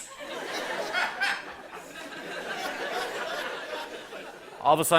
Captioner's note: laughter